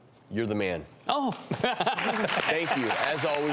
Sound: laughing

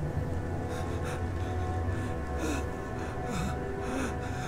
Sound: writhing in pain

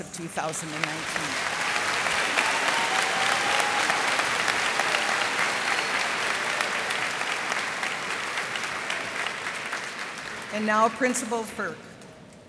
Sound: cheers and applause

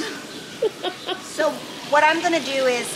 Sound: laughing

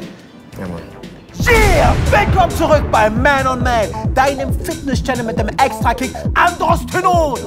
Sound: screams

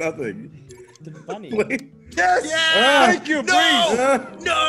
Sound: laugh

